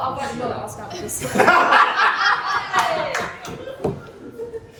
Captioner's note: laughter